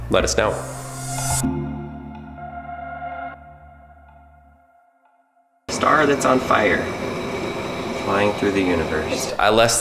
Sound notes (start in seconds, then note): 0.0 thoughtful music; 5.7 gas roaring